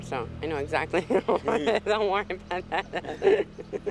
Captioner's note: laughing